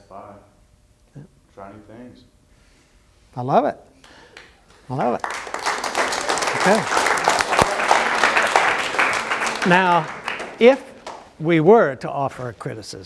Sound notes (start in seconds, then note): 4.6 applause